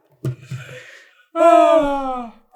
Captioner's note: identical sighs